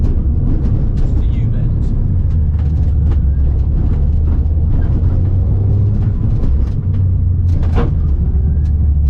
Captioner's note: engine rumbling